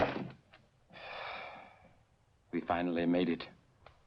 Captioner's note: door opens and closes; sighs